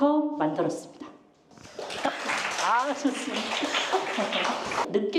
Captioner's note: enjoys applause